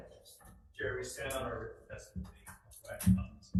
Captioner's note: speaks faintly